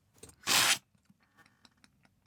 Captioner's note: slurp